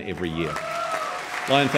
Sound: audience clapping and cheering

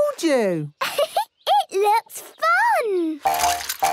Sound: giggles

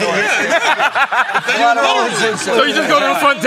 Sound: laughter

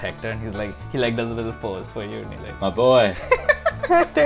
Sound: laughter

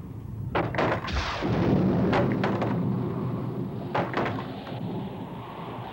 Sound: door thudding; thunder clapping

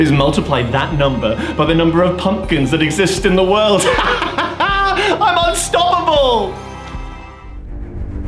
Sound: laughs

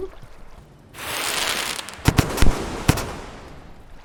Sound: explosions

